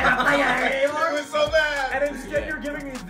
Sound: laugh

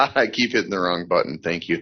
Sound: man laughing

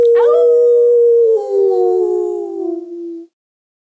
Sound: howling

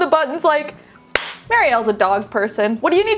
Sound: claps

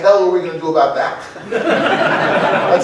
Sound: laughter

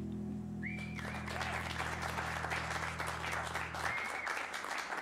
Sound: cheers and applause

